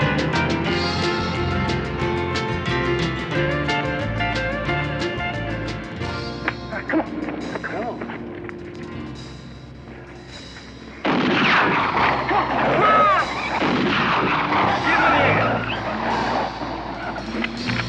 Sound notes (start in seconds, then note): 11.0 gunshot; 12.4 yelling